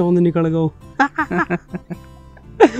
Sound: laughing

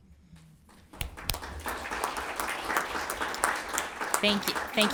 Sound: everyone applauds

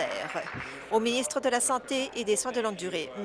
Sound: applause

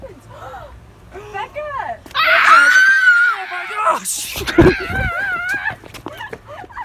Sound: screams

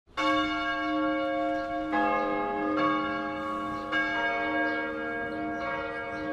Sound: church bells tolling

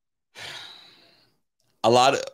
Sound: sighs

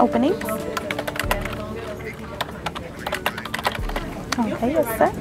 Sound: keyboard clicking

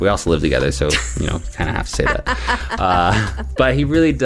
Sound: laughter

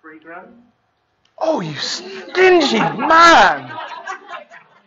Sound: laughing

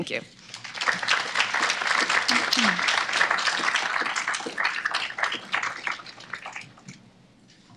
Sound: applause

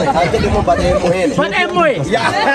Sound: speeking in Sidama language

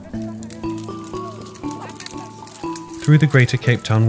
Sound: branches snapping

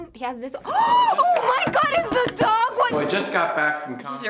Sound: gasps

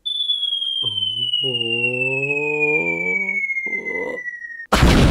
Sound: excitement sounds

